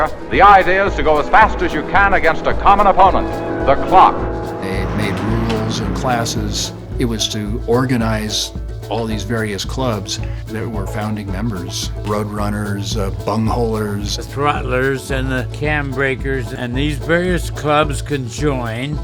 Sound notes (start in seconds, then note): 4.5 pat